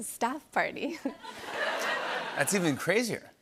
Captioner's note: laughter